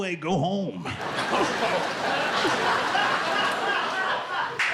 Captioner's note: laughter